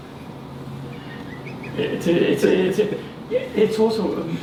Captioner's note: laughing